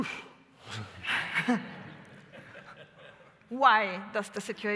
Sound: laughter

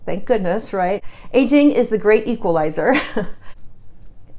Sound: chuckles

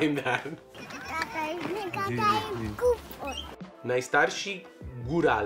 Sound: speaks Polish

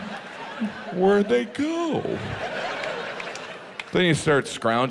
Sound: audience laughs

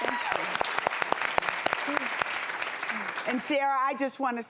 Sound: applause and cheering

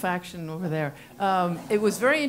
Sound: laugh

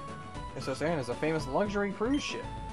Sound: none

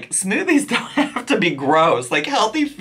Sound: laughs

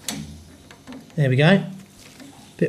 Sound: water streaming out quietly

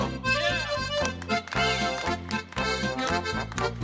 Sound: hands clapping

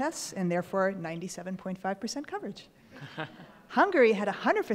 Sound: laughing

